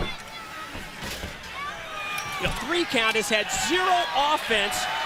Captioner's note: crowd chatter